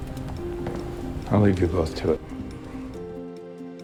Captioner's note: voiceover